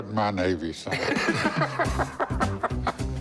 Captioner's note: laughter